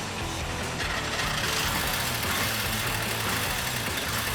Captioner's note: rock music; engine starting